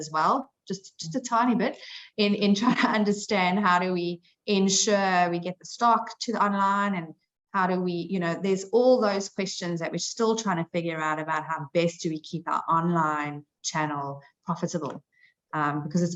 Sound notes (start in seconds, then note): none